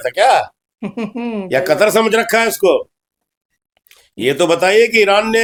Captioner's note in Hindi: हंसी